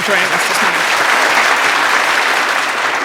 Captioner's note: applause